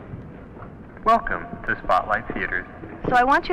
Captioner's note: man On PA